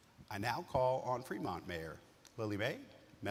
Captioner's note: none